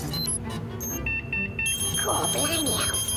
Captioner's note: rapid beeping